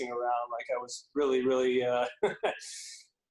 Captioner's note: chuckles